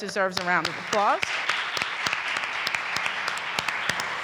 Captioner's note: audience applauding